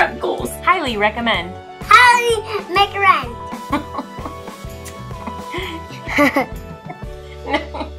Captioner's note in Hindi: गिगल्स